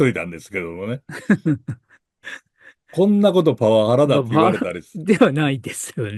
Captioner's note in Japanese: 笑い